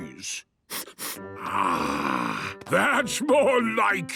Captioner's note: sniffs